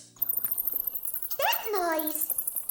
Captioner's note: rustling